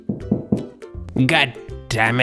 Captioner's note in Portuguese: Batida na porta